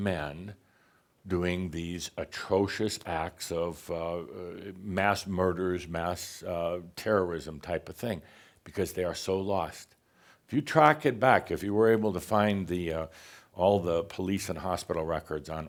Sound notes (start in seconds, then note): none